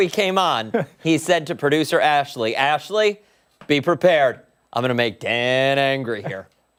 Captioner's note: laughter